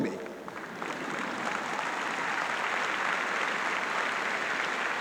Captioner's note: audience clapping